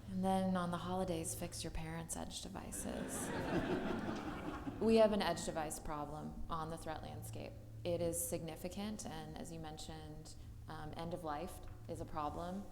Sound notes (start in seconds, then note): 2.8 audience laughing